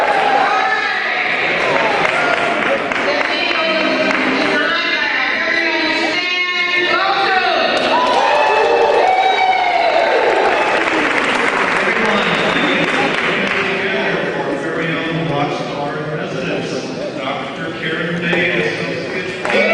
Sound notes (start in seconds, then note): 0.0 cheering and applause; 7.0 cheering